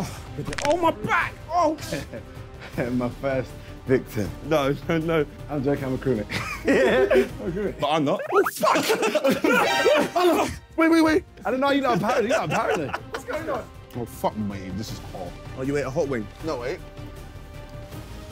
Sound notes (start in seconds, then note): 6.6 laughing; 11.9 laughing; 18.0 suspenseful music